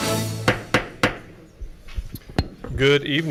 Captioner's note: gavel banging